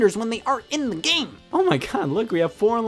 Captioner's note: none